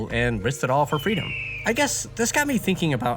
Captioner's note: eagle screech